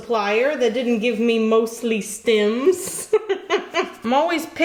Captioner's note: laughs